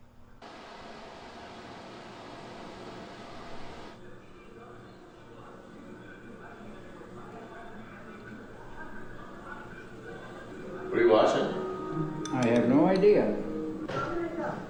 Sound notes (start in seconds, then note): 1.0 soft whirring